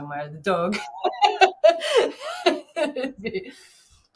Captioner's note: laughing